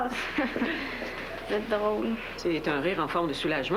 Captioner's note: Rires